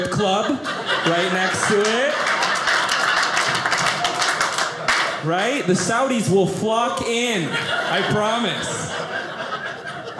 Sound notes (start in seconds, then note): 0.9 audience clapping